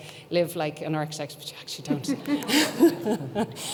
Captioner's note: laughs